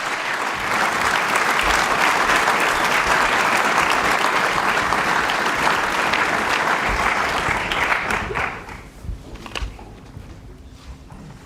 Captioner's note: applause